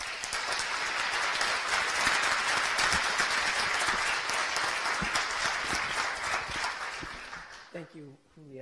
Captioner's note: applause